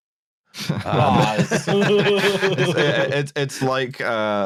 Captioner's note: laughter